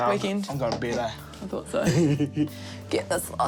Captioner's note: laughs